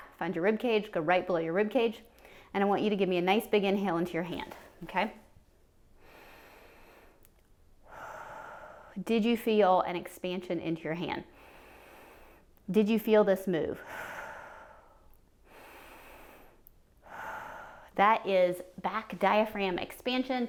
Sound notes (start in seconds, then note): 7.8 inhales, exhales; 12.0 inhales; 15.4 exhales; 17.0 inhales and exhales